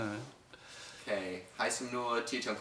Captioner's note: Both resume speaking in Khmer